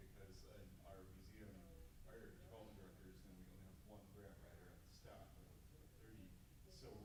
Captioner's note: static buzzing drowns out speaking